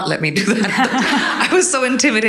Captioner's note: all laughing